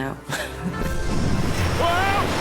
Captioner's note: laughing